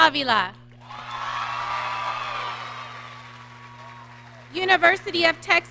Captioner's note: audience cheering